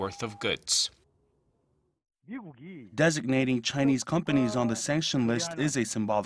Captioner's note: Korean